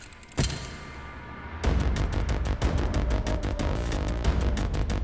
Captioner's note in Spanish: Golpes